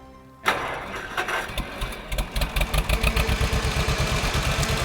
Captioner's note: tractor humming